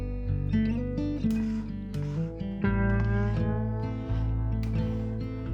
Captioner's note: spatula scrapping